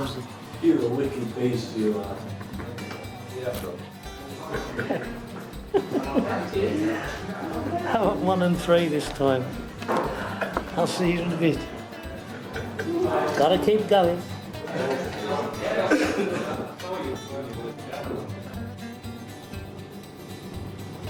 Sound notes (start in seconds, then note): 5.6 laughing; 14.2 lighthearted instrumental music